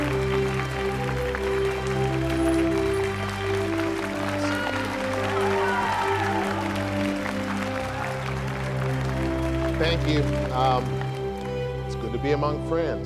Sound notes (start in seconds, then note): 4.4 audience cheering